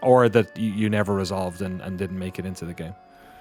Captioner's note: none